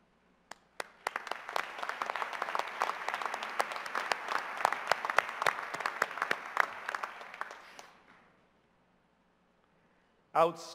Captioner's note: cheers and applause